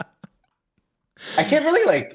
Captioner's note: laughter